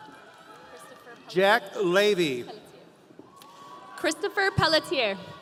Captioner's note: audience cheering